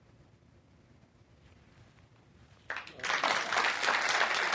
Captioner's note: applause